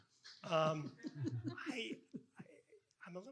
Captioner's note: participants laughing